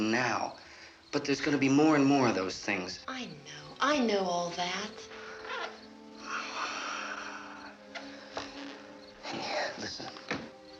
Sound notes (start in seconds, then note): 6.1 sighs